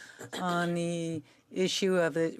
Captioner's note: speaking French